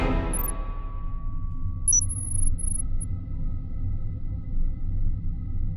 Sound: bleeping noises

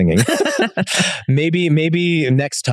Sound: both laughing amusingly

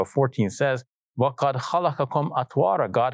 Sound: speaks in Arabic

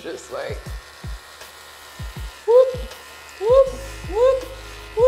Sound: shaver buzzing

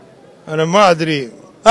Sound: speaking in Arabic

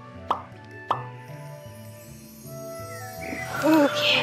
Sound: popping sound

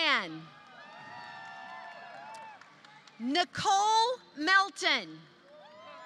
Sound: applause; applause

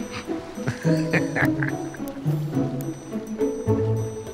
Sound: laughter

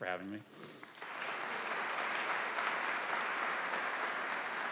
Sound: audience applauding

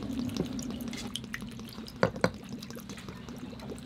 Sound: liquid gurgling

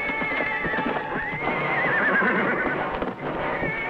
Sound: horse neighs

